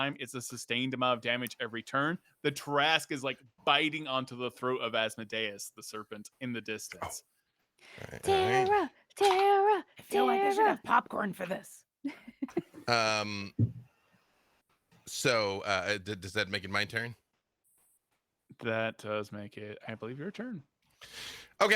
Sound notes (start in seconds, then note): 12.0 laughs